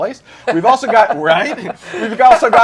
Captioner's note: laughter